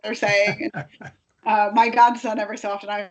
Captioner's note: laughing